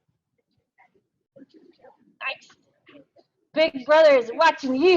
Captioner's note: mic garbling